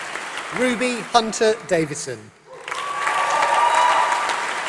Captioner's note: applause